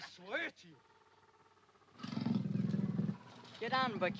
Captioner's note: panther growls